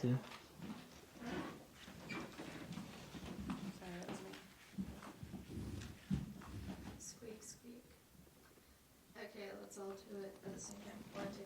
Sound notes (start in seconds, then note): 0.2 floor creaking; 0.3 footsteps falling